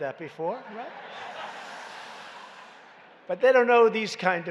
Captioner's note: laughter